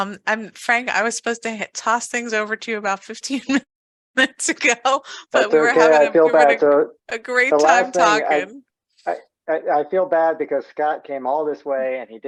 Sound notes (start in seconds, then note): 5.4 laughs